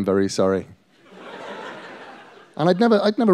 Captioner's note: laughter